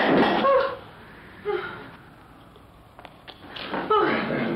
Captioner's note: gasp